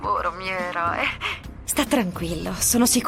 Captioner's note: sighs